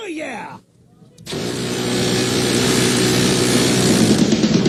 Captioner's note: machine gun buzzing; heavy metal music